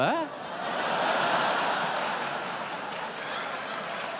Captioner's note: audience laughing